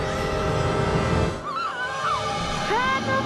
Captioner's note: Halle screaming